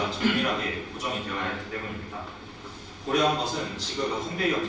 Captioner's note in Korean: 목을 가다듬음